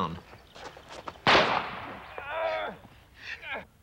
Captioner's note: gunshot